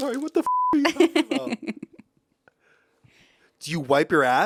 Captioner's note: beep; laughs